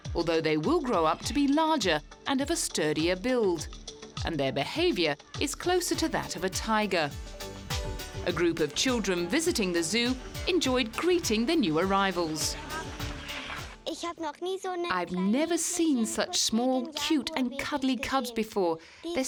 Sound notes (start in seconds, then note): 13.9 speaking in foreign language